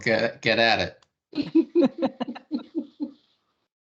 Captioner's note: everyone laughing